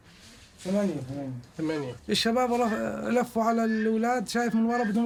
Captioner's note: speaking foreign language